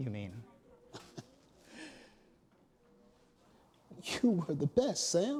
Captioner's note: Emmanuel chuckles